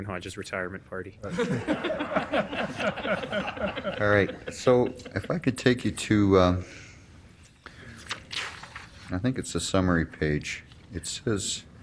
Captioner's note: laughter